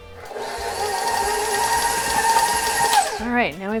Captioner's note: mixer whirring